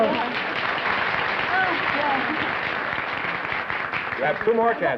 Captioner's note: applause